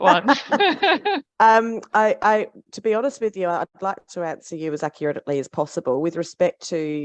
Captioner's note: laughs